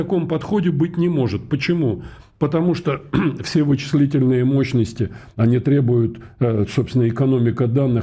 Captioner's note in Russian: откашливается